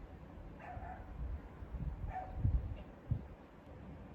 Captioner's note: A dog outside is barking😂